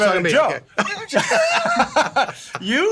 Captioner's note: laughs